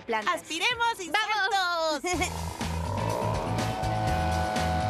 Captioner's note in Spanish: rugido de motor